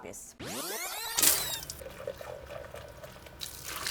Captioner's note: film rewinding